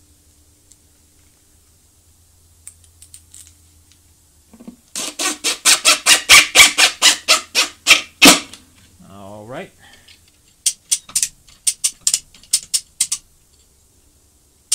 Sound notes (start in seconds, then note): 10.5 metal clicking